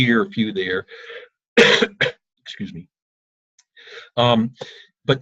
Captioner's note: coughs